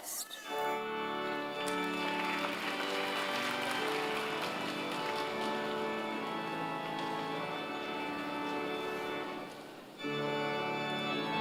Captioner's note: applause